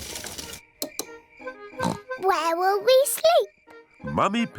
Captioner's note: oinks